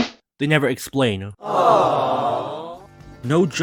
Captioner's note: crowd groaning